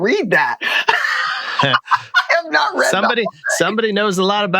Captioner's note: laughter